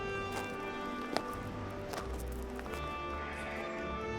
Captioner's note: footsteps